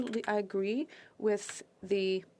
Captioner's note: speaking French